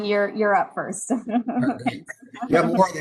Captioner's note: laughs